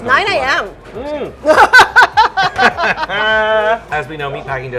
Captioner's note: laughing